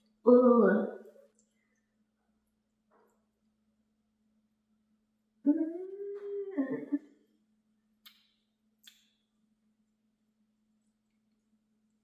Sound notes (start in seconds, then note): 5.4 smacks lips; 5.5 groans